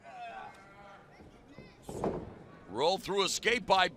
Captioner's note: crowd chatter